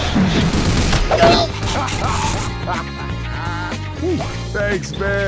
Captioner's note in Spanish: Coach se ríe